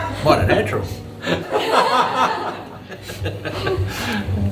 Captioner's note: all laugh